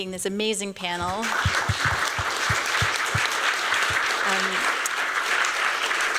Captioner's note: applause